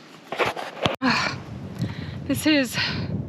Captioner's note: sighs